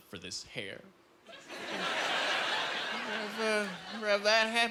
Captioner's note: laughing